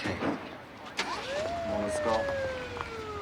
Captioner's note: sirens wailing